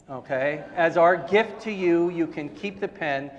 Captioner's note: audience laughing